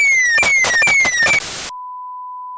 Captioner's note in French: des coups de feu éclatent; l'alarme retentit